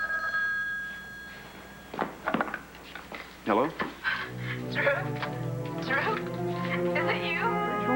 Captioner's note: telephone rings